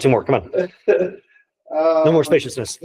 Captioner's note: colleague laughing